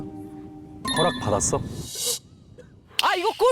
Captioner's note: warning sound for possible danger